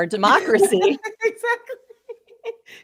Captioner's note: both laughing